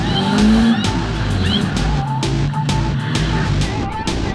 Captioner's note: yells